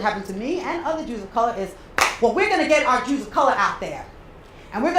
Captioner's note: clap